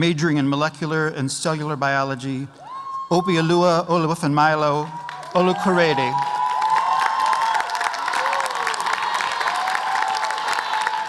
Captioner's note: applause